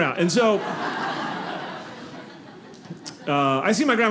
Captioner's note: audience laughing